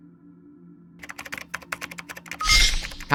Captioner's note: typing